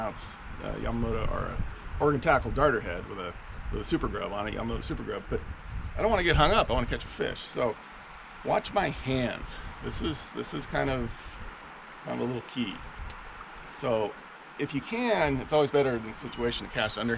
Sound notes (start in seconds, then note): none